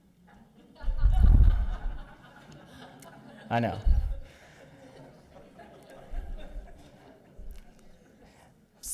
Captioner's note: audience laughter